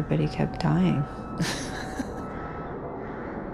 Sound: chuckling

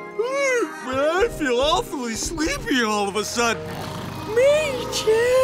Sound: yawns; snoring

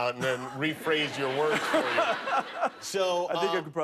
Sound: laughter

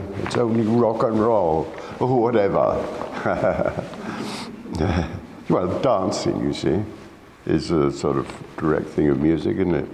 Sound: laughs

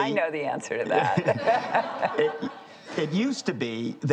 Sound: laughing

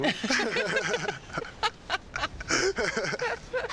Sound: laughs

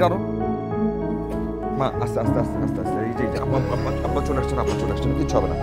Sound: coughing

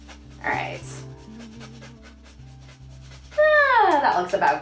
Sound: grater scrapes

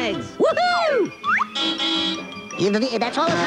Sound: car horn honking

